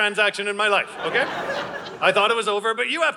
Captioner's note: audience laughing